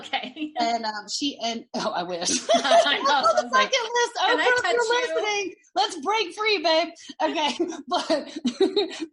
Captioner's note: laughing